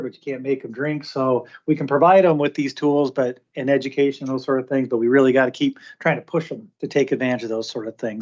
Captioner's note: none